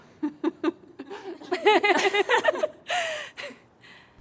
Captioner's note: all laughing